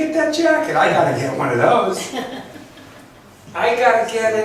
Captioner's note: laughs